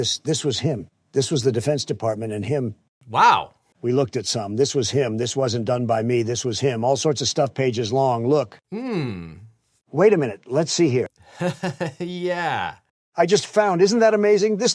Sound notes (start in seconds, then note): 11.2 laughs